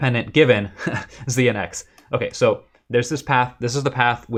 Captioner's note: laughter